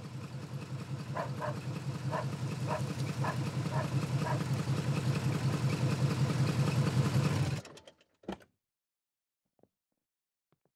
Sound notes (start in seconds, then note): 1.1 dog barks; 1.7 engine rumbles